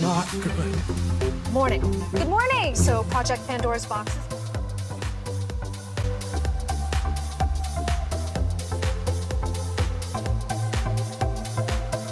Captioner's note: people speaking to each other